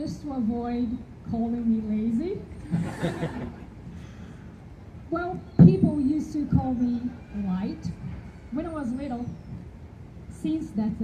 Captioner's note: audience laughter